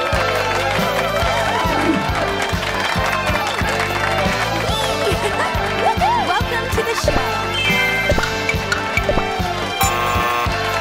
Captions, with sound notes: [CHEERING] Welcome to the show! [BUZZER]